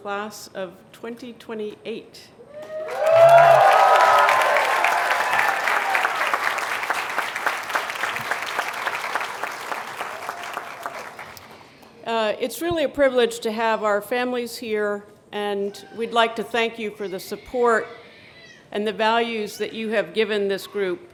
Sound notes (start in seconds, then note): 2.5 cheers and applause